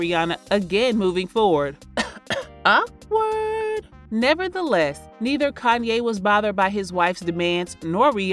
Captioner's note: cough cough